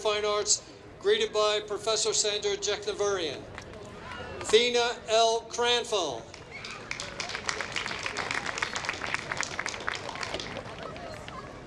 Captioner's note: applause